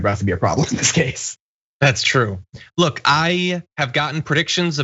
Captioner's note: laugh